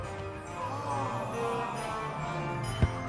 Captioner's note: crowd; gentle music